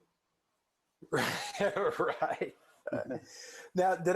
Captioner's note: laughing